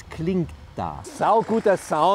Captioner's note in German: Baulärm